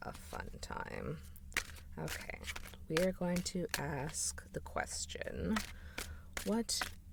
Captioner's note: shuffling sounds